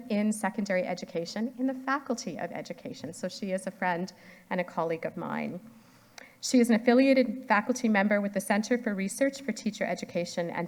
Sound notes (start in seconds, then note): none